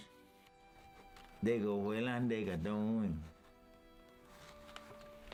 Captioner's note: Spoken Cherokee